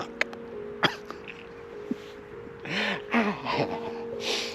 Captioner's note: chuckling